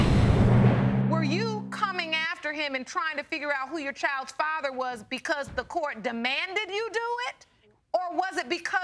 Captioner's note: none